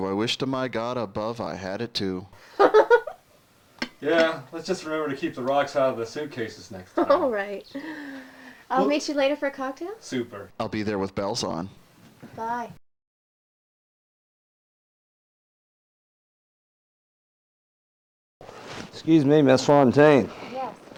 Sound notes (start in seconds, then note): 2.4 laughs; 6.8 giggles